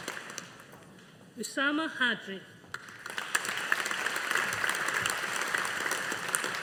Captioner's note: audience applauding